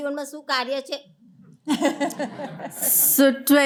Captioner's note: laughter